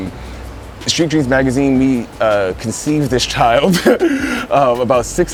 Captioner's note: laughs